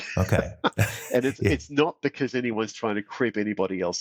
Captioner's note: laughs